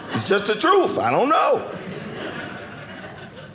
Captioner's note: audience laughing